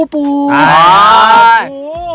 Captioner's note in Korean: 질색하는 소리